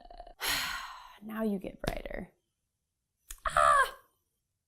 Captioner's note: sighs